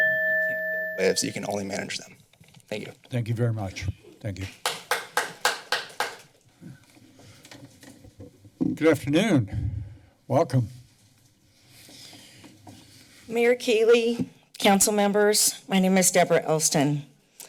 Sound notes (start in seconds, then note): 4.6 clapping